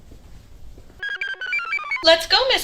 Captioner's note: computer chirps